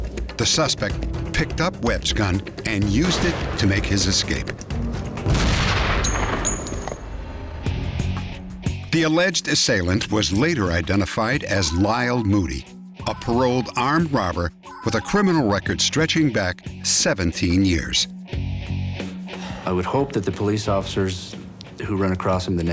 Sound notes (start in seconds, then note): 5.2 gunshot; 5.9 casing clinks on ground